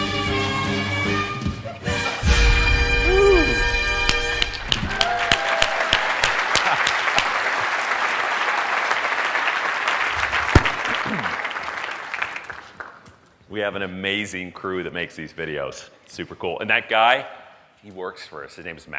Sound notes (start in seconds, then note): 6.7 applause